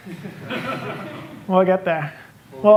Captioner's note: laughter